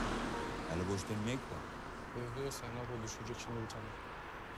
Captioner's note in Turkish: Ortam Sesi